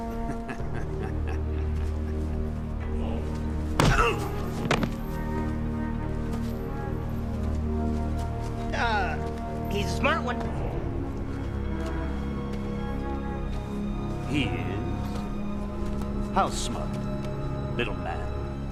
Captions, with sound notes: (thwack) (grunt) (thud) - Uh, he's a smart one. - He is? How smart, little man?